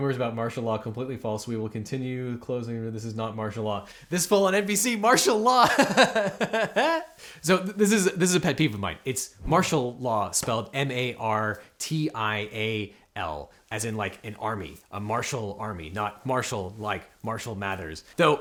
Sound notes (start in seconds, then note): 5.2 host laughs